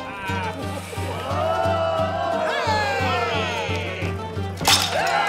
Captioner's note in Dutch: begunstigers juichen; mannen juichen